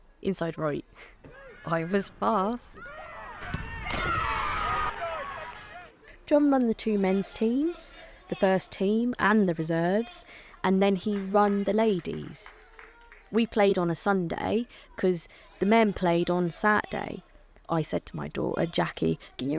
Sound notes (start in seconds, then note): 1.2 laughs; 2.6 shouts and cheers from the crowd